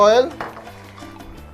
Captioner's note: clang